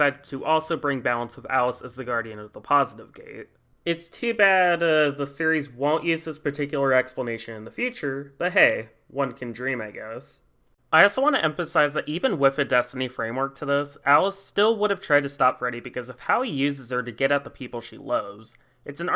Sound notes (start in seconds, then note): none